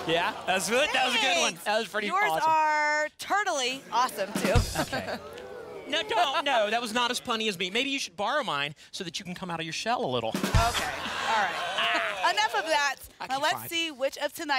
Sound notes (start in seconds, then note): 4.3 audience oohs; 10.5 ba dum tss ♪ and laughter